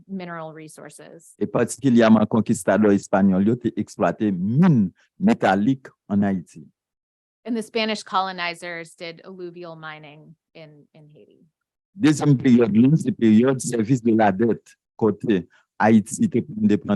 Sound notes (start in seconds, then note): 1.8 speaking a foreign language; 12.0 speaking a foreign language